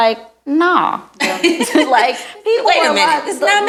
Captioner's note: laughing